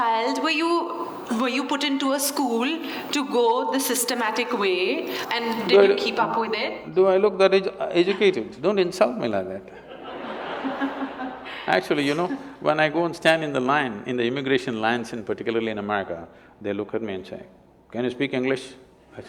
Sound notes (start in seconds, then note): 9.7 laughter